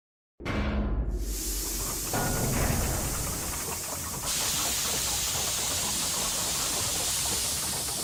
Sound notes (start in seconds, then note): 1.2 steam blowing; 1.8 gear catling